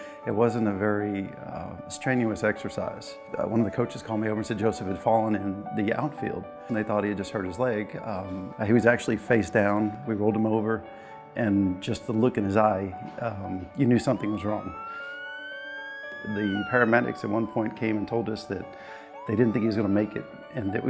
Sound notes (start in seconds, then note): 14.9 ambulance siren wails